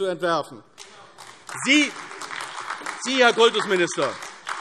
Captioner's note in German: Beifall AfD